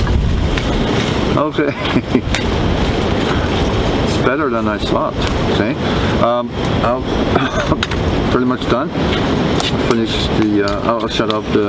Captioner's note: laughing